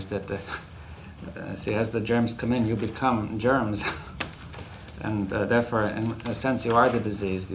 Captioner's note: laughs